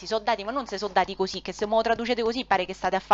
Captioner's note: mimics slaps with hands